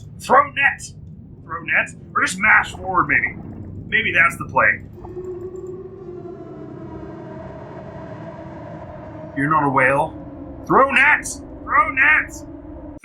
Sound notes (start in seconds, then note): 7.8 howls